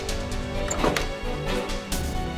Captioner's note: door opening